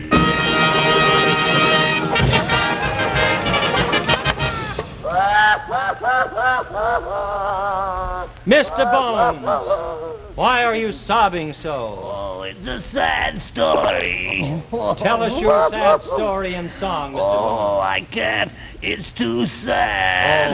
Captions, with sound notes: (Mr. Bones sobbing) - Mr. Bones, why are you sobbing so. - Oh, it's a sad story. - Tell us your sad story in song, Mr. Bones. - Oh, I can't, it's too sad.